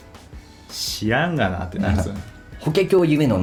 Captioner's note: laughs